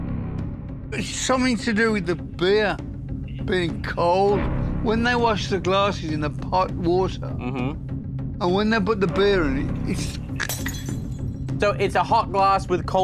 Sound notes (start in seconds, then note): 9.9 vocalizes; 10.4 glass shattering